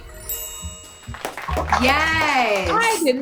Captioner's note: family applauding